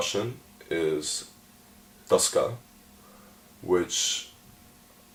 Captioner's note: speaks Russian